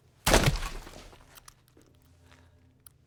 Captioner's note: head thumps